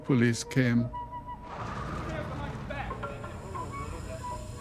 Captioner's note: indistinct chatter